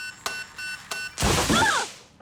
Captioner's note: explodes